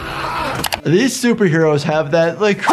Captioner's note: keys clack